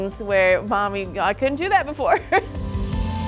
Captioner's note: laughing; upbeat music